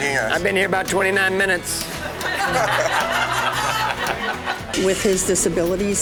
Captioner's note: laughter